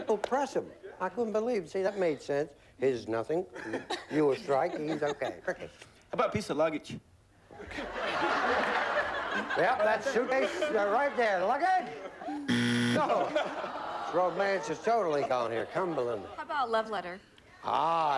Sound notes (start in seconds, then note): 7.5 laughter; 12.4 buzzer